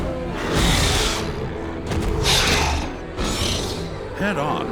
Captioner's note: roaring